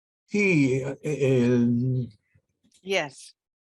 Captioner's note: speaking in foreign language